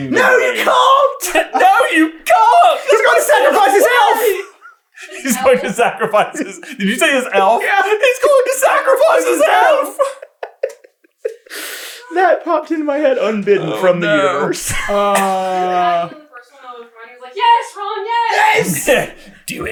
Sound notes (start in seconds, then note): 11.3 laughing